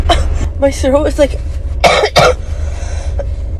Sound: clears throat; coughing

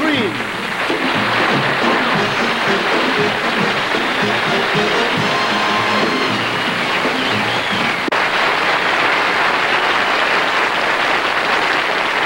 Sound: applause

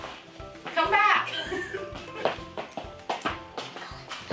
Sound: laughs

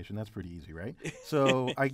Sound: laugh

